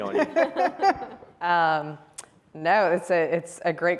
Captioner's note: all chuckle